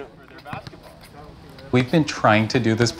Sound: basketball dribbles

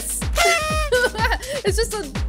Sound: party kazoo blows

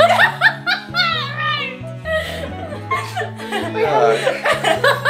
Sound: laughing

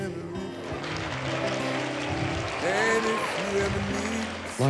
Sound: applause

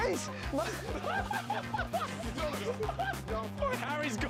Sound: laughter

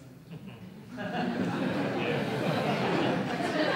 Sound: laughing

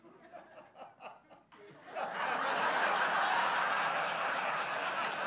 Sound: laughter; roaring laughter

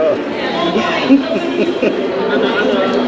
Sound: laughing

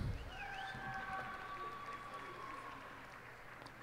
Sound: cheers and applause

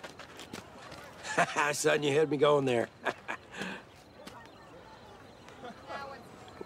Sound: chuckles

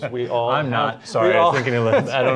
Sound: laughter

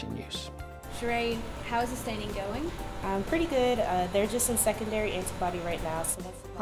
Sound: sound of researchers in lab

